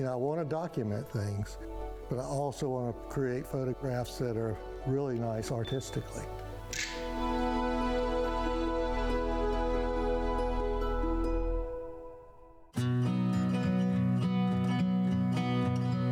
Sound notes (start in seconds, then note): 6.9 camera clicks; 9.8 mellow music; 13.5 upbeat music